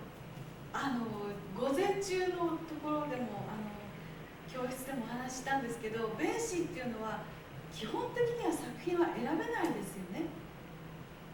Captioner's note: speaking Japanes